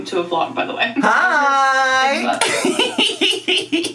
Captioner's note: laughs